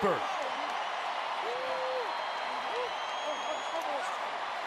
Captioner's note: cheering